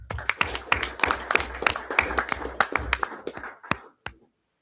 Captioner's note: everyone applauds